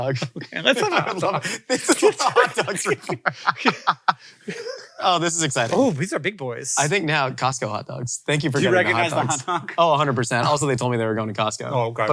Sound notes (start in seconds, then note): 3.7 laughs